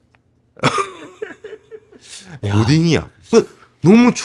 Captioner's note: laughs